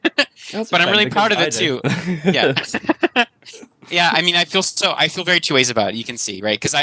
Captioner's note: laughs